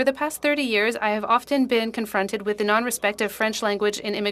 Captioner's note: speaking French